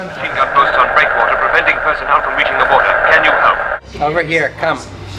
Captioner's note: war movie chatters